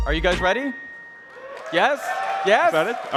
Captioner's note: applause